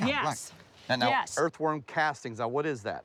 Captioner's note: laughs